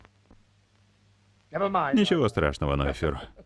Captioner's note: laughs